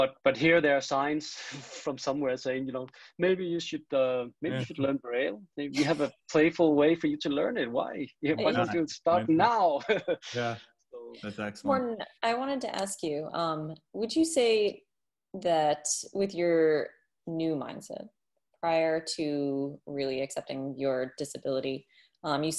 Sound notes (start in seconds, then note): 9.8 laughs